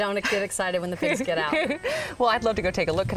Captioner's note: laughs